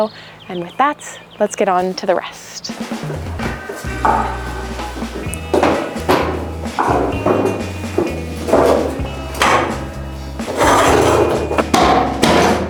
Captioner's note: agressive kicking